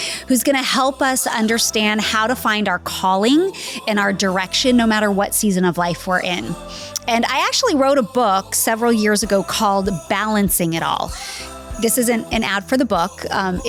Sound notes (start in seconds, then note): none